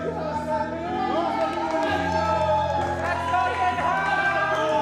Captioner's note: audience cheers